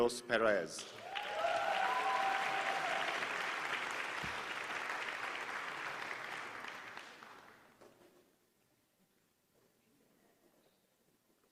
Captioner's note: applause